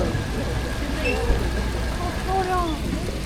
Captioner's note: speaking foreign language